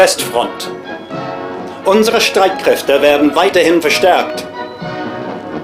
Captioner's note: speaking foreign language